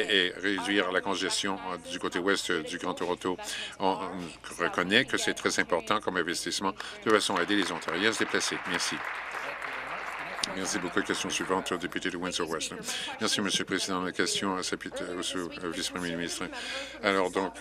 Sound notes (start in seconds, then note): 10.6 applause